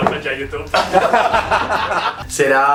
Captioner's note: laughs